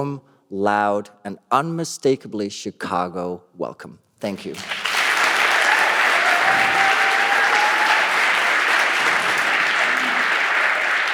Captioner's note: applause